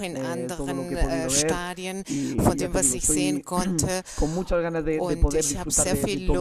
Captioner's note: coughs